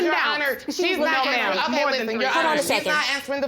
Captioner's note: both arguing